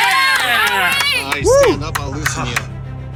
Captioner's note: cheers